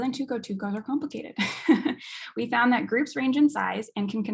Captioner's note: chuckles